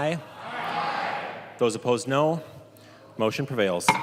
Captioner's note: chorus of ayes